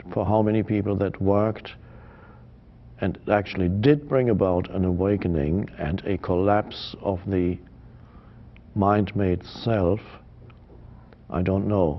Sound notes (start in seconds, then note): none